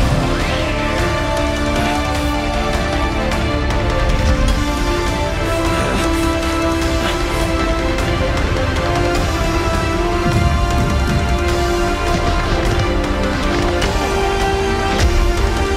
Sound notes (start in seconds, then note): 1.8 demon groans; 5.5 heavy breathing; 12.8 fists thudding